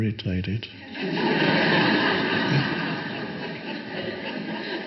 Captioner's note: audience laughs